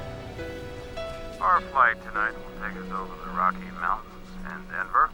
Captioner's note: pilot On P.A